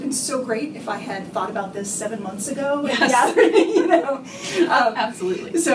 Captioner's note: laughter